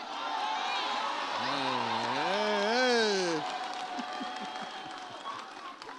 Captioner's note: audience cheers